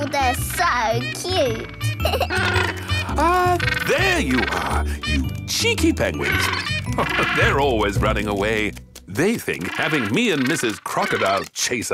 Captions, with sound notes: - Oh, they're so cute! (giggles) (honking) - Ah, there you are! You cheeky penguins! (laughing) They're always running away! They think having me and Mrs. Crocodile